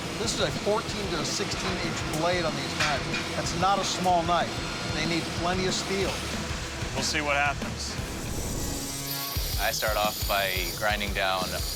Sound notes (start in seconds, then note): 7.9 machinery whirring